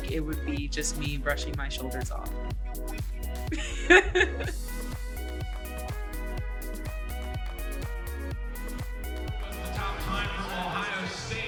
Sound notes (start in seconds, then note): 3.5 laughter